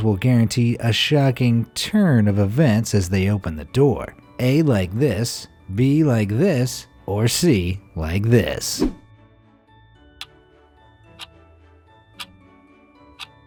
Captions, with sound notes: will guarantee a shocking turn of events as they open the door? A, like this. B, like this, or C, like this. (clock ticking)